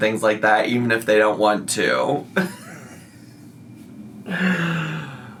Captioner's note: laughs